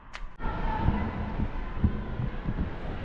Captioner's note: students protesting on the street